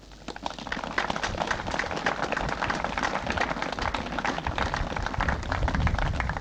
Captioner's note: applause